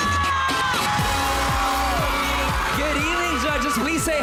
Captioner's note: audience cheering